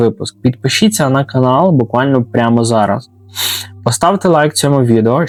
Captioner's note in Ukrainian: сопіння